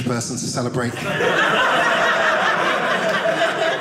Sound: audience laughing

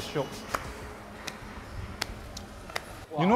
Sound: slow clapping

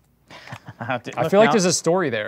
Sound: laughs

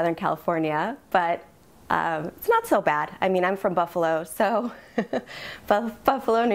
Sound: giggles

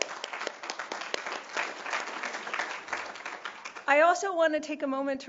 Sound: applause

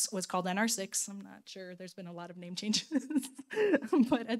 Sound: laughing

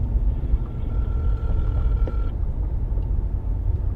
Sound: phone ringing

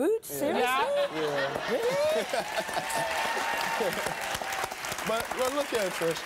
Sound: laughing; audience applause

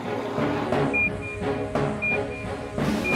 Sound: beeping

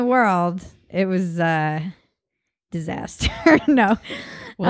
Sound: laughs

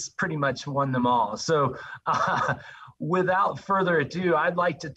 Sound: laugh

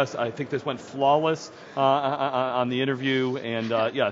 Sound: laughter

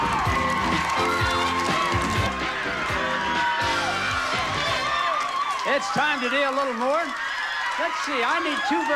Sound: audience applauding

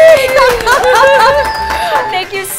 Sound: clapping

